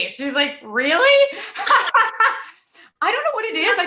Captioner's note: laughter